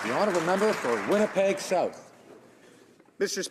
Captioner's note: some Applause